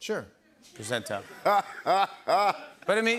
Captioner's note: laughter